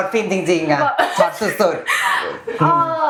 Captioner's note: laughs